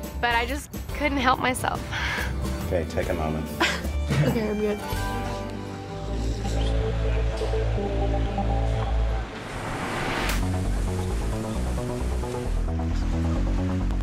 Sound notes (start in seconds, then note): 2.8 heartfelt acoustic music; 4.0 whimpers; 9.6 suspenseful techno music